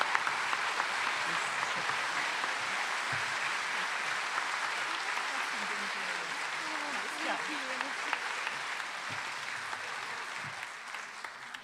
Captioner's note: applause